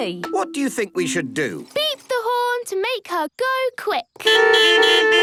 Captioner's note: beeping